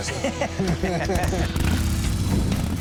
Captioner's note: laughter; motorcyle revving